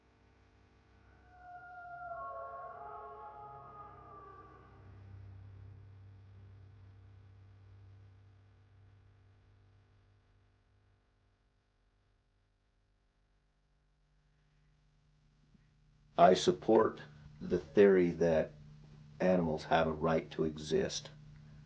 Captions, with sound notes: (haunted wolf howling) - I support the theory that animals have a right to exist,